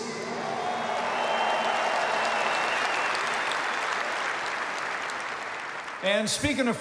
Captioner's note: applause